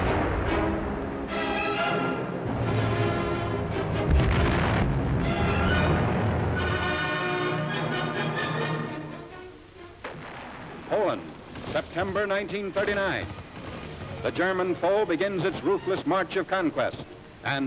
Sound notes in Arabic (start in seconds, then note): 10.0 انفجارات مدوية; 10.8 موسيقى درامية